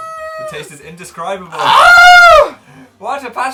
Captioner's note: groans loudly